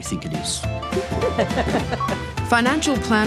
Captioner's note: chuckles